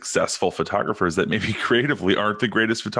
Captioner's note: chuckles